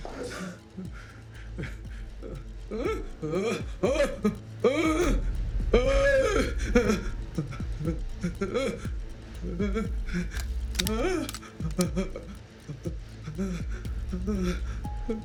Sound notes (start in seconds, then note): 2.6 Roy gasping; 6.5 dramatic music